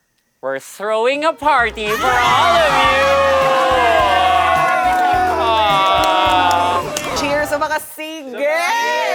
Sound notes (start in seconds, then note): 4.5 campers cheer